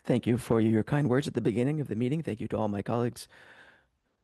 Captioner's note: speaking French